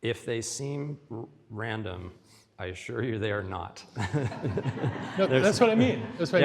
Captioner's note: audience laughs